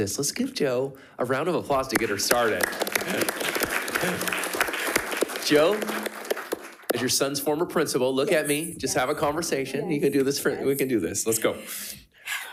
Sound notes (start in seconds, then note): 1.8 crowd clapping